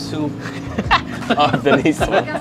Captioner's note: chuckles